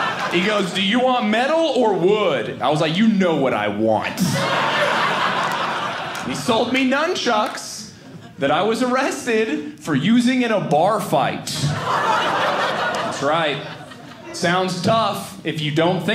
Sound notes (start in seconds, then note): 4.1 audience laughing; 11.5 audience laughing